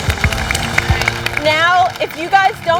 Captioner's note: applause